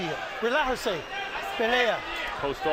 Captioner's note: speaks Spanish